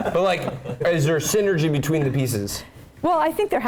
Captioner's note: laugh